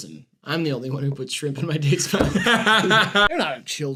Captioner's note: all laughing